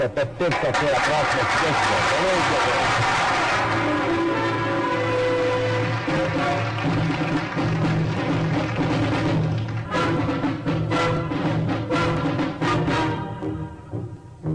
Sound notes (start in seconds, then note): 0.6 applause